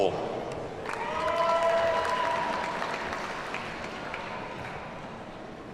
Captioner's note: audience cheers and applauds